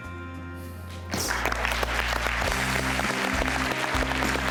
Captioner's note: audience applauds